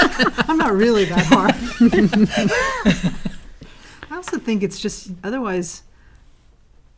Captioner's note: laugh